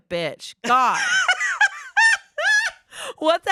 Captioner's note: laughs